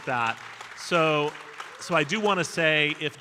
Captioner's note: audience applauding